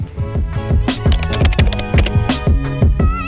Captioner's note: typewriter clicking